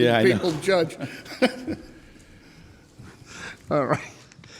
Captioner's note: laughs